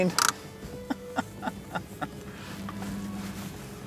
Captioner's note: laughing